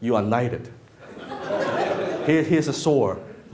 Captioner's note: laughing